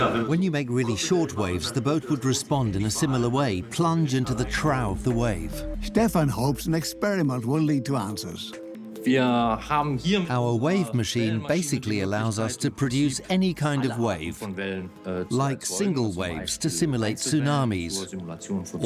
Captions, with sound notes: When you make short waves, the boat would respond similarly: plunge into the trough of the wave. Stefan hopes an experiment will lead to answers. (in German) (dubbed in English) Our wave machine can produce any wave, like single waves to simulate tsunamis,